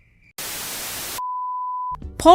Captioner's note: static